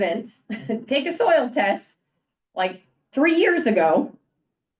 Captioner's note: chuckles